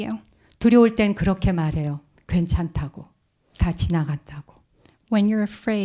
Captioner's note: speaking in Korean